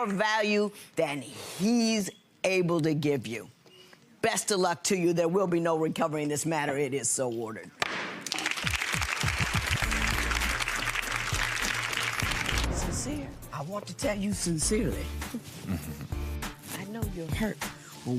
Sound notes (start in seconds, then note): 0.0 clapping; 8.2 clapping